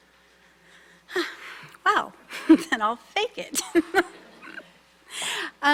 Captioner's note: sighs; laughs